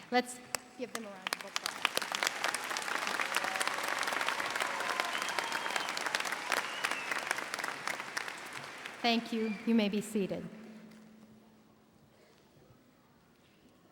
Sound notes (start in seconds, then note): 0.8 audience applauding and cheering